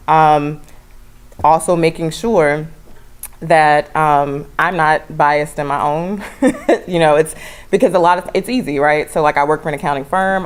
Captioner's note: laugh